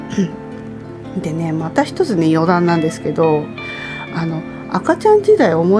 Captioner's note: laughs